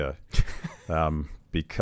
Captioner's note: laughs